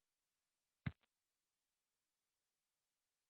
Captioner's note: silence